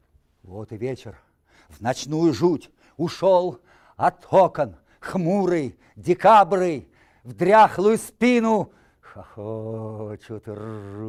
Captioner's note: reciting poem in Russian